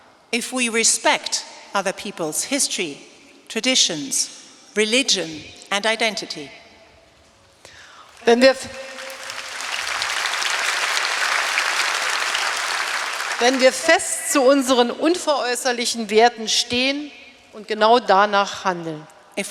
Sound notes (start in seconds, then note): 0.0 speaking in German; 7.9 applause; 13.5 speaking in German